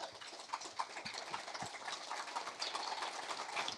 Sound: applause

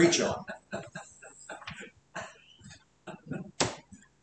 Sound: laughter

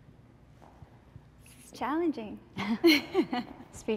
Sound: laughs

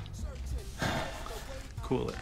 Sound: sighs

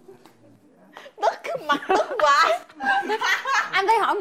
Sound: laugh

